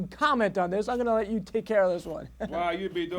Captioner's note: chuckles